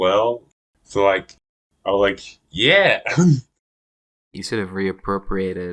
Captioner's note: laughs